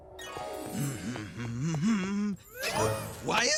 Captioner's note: humming